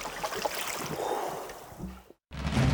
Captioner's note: diver exhales